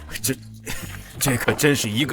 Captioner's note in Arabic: سعال